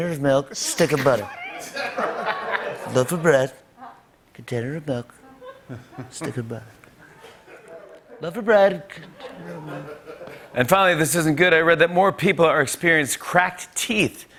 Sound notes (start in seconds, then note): 9.6 normal voice